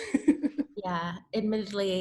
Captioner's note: laughs